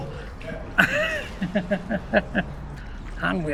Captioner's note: laughter